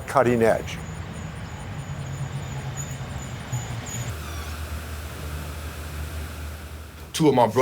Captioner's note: birds chirping; traffic rumbling